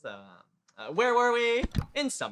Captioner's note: click